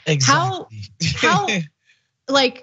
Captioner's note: laugh